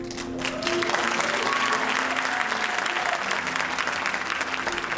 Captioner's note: audience applauding and cheering